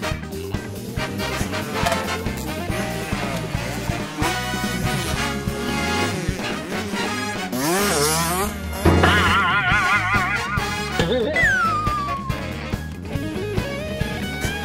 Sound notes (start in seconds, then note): 8.6 bangs